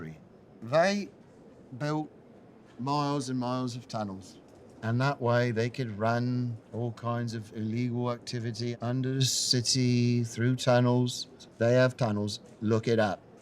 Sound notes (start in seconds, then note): none